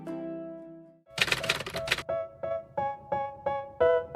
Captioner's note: typewriter Sound